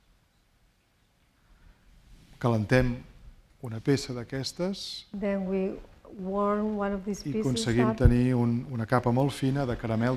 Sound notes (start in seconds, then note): 3.3 speaking spanish